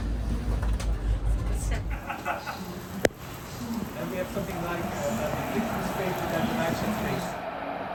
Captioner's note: a typical European summer storm